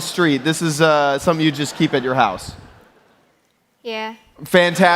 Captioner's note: applause